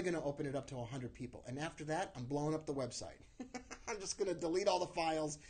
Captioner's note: laughs